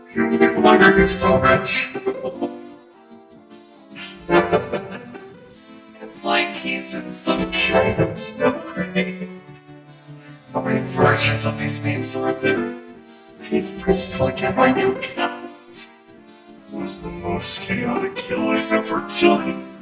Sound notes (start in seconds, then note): 3.9 laughing